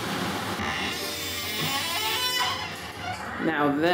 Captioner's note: door creaks open